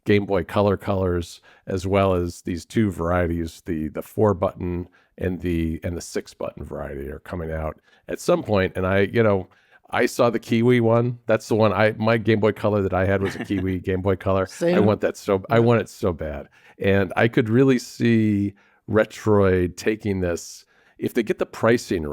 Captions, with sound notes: Game Boy Color colors, as well as these two varieties, the, the four-button and the, and the six-button variety are coming out at some point. And I, you know, I saw the kiwi one. That's the one I... My Game Boy Color that I had- (laughs) ... was a kiwi Game Boy Color. Same. I want that so b- I want it so bad. And I could really see Retroid taking this... If they get the pricing